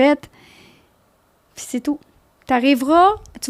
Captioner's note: in french